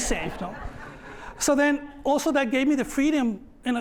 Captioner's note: laughter